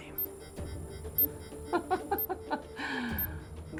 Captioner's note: chuckles